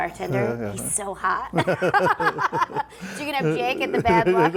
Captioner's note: laughing